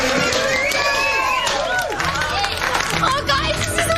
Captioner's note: Aplauze si aplauze